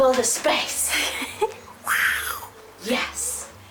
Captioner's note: laughs